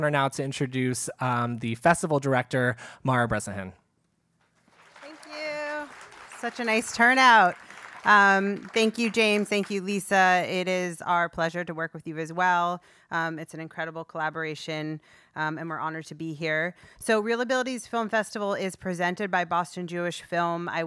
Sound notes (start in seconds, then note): 4.6 applause